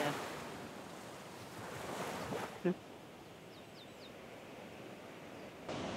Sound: wind blowing

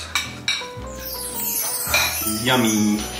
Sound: magical sounds

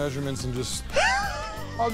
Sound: Danny laughs

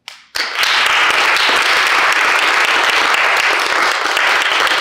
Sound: audience applauding

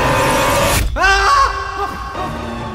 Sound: suryah screaming

